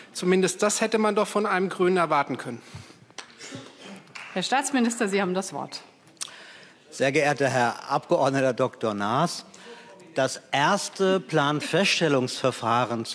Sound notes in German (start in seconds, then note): 2.4 Beifall Freie Demokraten